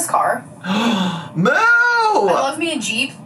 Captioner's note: gasps